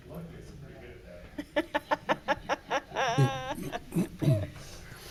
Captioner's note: laughing